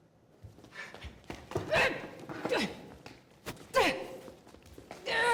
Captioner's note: groaning